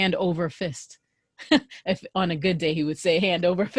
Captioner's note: laughter